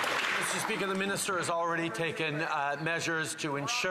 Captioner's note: some Applause